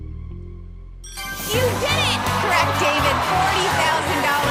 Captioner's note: ding